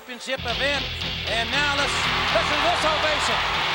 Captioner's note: upbeat rock music; crowd cheering